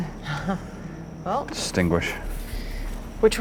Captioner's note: nervous laughing